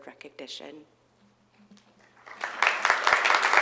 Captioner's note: applause